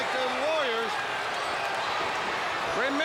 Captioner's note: crowd cheering